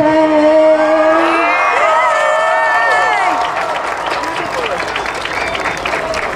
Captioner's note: audience cheering and applauding